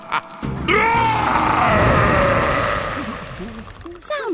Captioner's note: laughing; roaring; shivering